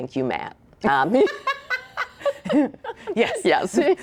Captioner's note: both laughing